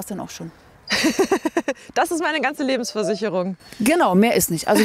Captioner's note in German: lacht